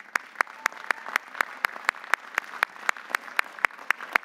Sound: audience applauding

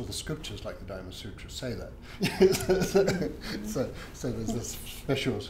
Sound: laughs

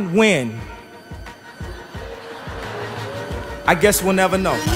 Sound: audience Laughing

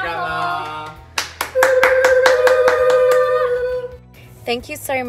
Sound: people cheering

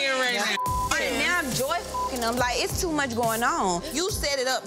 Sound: beep

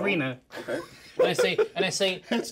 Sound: speaker laughs

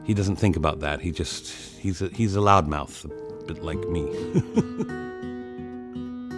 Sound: laughs

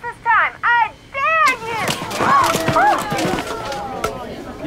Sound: crowd booing

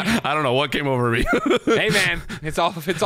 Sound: laughs; both laugh

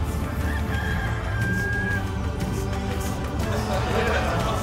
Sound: rooster crowing

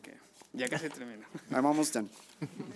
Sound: man speaking foreign language

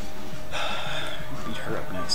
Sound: heavy sigh

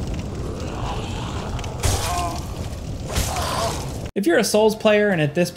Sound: monster groaning

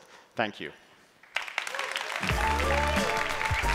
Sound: applause

